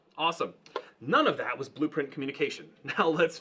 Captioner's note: laughing